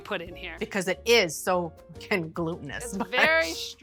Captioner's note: laughs